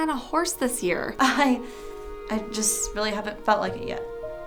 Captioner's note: chuckles